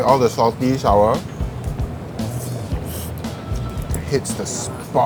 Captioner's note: slurping noodles